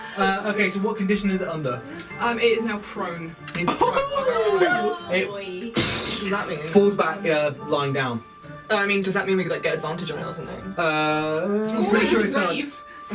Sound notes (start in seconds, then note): 5.8 booming noise